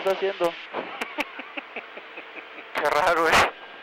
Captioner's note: lachend